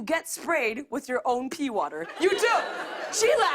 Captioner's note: laughter